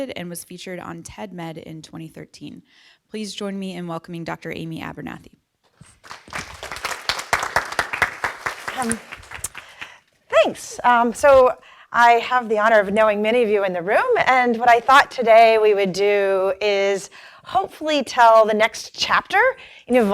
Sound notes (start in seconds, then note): 5.8 applause